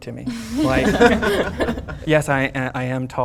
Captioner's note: everyone laughing